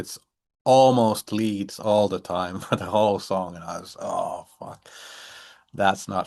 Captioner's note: chuckles